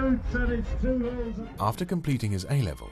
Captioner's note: voiceover